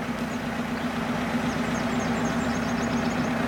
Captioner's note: humming of engine